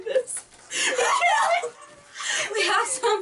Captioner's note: gasp